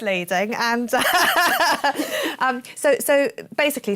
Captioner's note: laughs